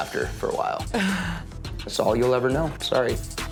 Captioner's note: Tana gasping